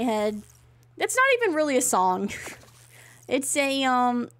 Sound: laughs

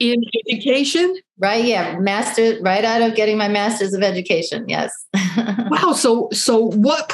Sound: laughs

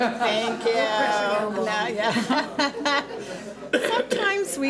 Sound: laughs

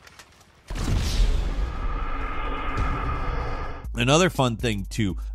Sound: rocket explodes

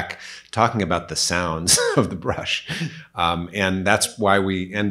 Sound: laughs

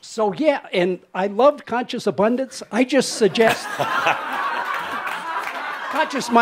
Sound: laughter

